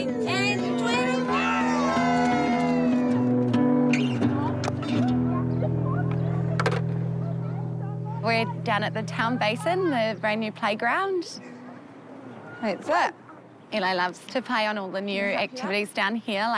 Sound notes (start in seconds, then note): 1.2 cheering; 4.2 families chatter